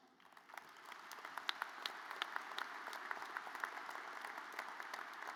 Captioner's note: audience applauds